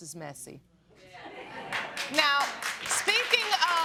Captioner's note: applause